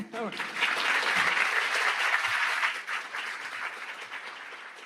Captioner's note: audience applauds